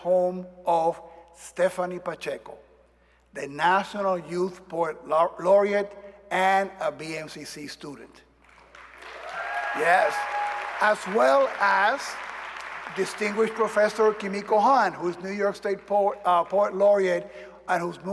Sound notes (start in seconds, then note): 11.9 cheers and applause